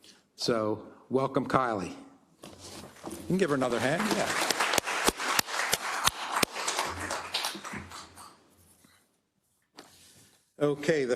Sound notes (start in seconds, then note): 3.3 applause